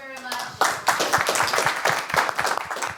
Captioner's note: applause